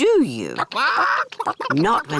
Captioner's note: chickens chatter